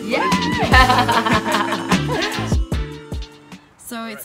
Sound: light hip hop music; laughing

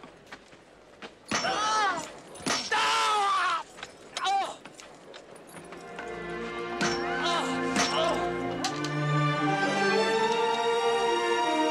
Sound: pounding, man screams in pain

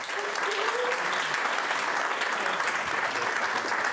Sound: audience claps

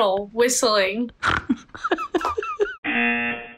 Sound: woman snorts; buzzer rings

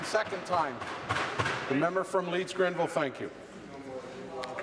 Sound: continued tapping on desks

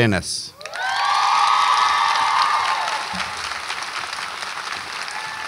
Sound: audience applauds and cheers

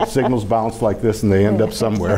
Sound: laughing

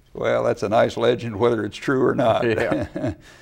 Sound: laughs

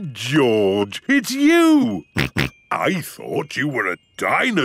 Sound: giggles; exclaims; snorting

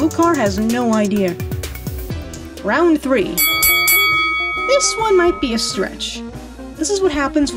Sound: ding ding

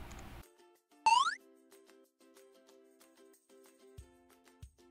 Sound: animation sound

